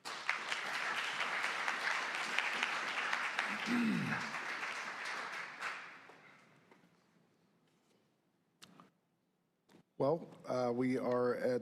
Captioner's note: applause